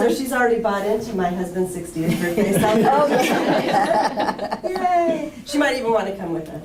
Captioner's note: laughter